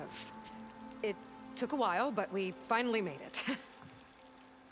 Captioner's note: laugh